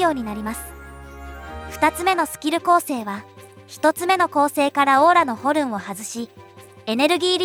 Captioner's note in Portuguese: Horn